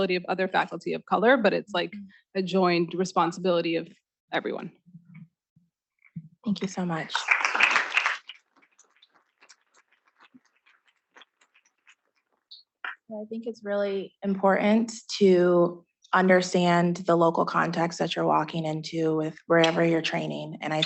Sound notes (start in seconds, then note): 7.1 students clapping